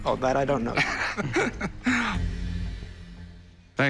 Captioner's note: laughs